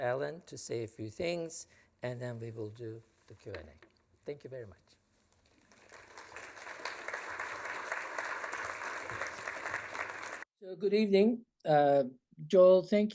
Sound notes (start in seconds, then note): 5.4 applause